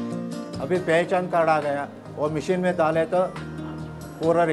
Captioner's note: non-english speech